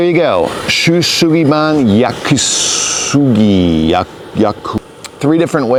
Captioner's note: speaks in foreign language